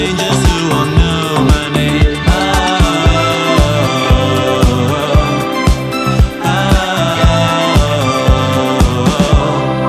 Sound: vocalizing

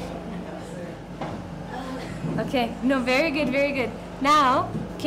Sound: kids talking and laughing

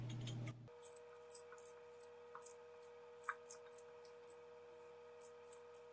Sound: I love the sound of peeling potatoes

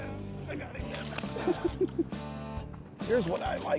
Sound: laughing

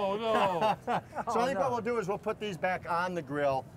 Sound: laughter

